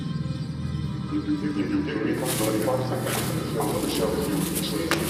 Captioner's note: A distorted version of the "35 seconds" voiceover plays